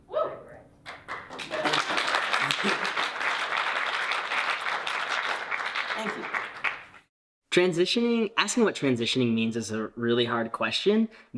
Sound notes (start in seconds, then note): 0.9 audience applauding; 2.4 chuckles